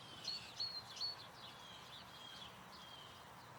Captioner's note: birds chirping